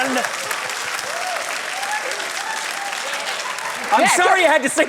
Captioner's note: applause, cheering